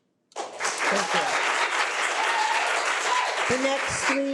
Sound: audience applauding

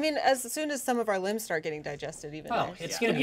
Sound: none

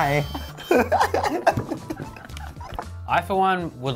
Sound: laughing

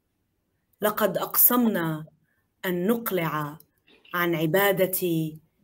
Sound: speaking in foreign language

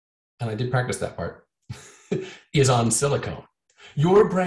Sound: chuckles

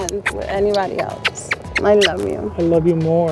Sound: kissing noises

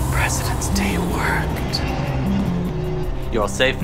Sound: whispering

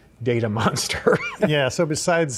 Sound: chuckling

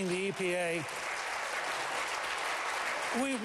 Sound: applause

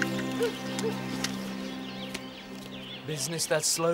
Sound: dog barking in distance

